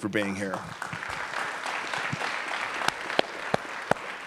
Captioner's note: applause